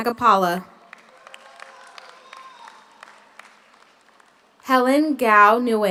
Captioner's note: audience applauds; audience cheers